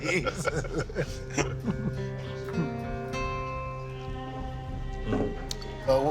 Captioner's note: laughing